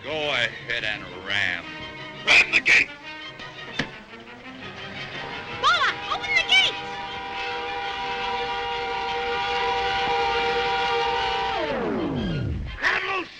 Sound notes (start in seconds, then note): 3.4 panel shuts; 8.0 The Juggernaut whirs